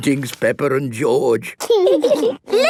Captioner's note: laughing